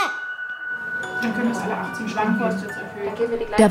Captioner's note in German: Stimmengewirr